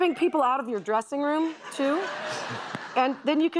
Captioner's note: laughter